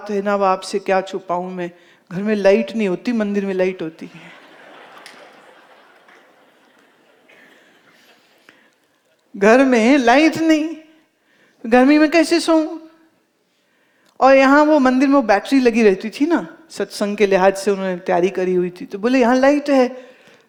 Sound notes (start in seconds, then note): 4.2 audience laughs